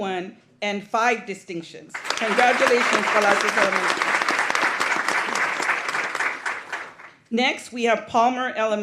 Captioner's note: applause